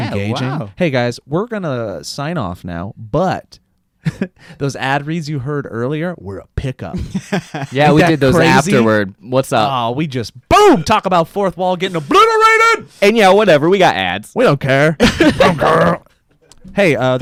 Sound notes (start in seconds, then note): 3.6 laughs; 6.9 laughs; 15.0 laughs